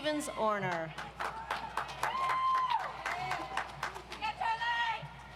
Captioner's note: audience applauds